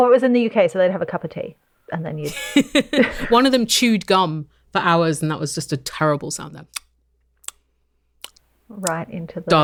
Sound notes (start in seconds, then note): 8.2 makes mouth-smacking sounds